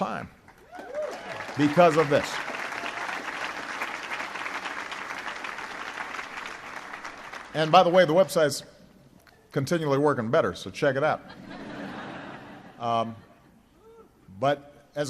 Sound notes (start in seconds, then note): 4.4 applause; 13.4 laughter